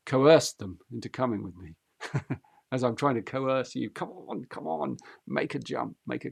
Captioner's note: laughs